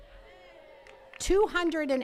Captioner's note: attendees cheering